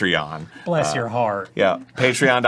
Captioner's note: doing a southern accent